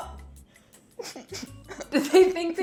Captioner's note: laughing